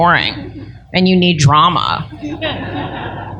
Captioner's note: laughter